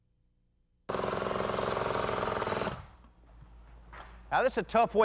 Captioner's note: jackhammer whirrs